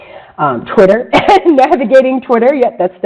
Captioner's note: laughter